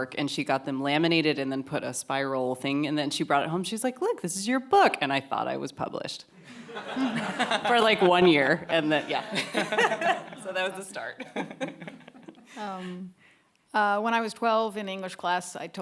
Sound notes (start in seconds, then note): 6.4 audience laughing